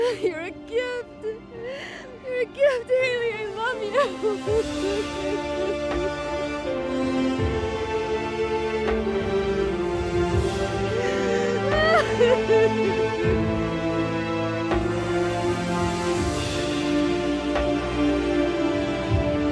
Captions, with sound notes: You're a gift. You're a gift, Hayley, I love you. (dramatic music) (Diane sobbing)